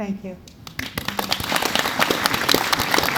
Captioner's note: audience Applauds